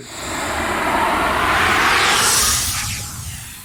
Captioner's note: logo whooshes